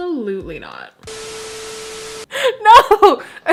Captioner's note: beep; static; laughter